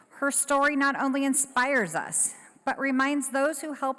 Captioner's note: none